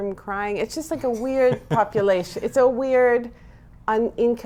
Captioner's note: laughs